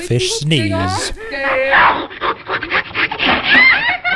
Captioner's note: sneezes; kids laugh